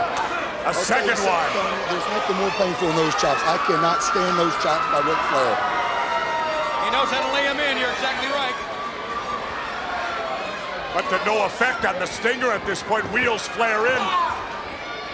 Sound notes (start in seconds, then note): 6.1 crowd cheering